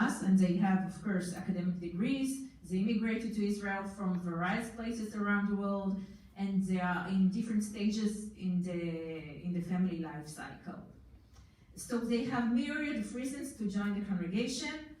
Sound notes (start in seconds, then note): none